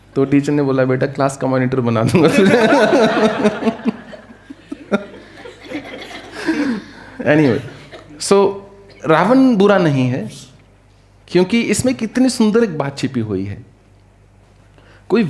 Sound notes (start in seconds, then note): 2.1 laughter